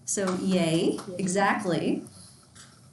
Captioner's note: students clapping